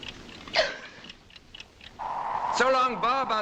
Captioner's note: sobbing